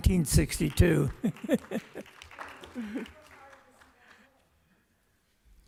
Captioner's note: applause